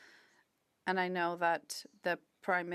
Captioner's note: speaking French